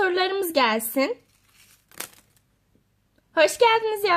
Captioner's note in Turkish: kağıt düşme sesi